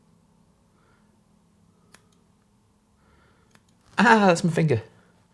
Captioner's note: scissors snipping